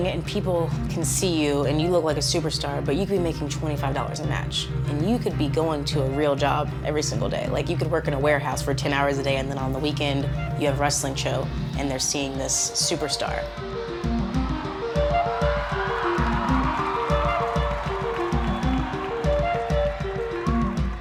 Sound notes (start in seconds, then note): 13.9 crowd cheers; 17.5 upbeat music continues